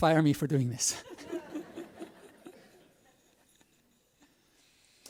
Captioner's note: audience laughs